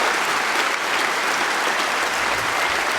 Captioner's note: applause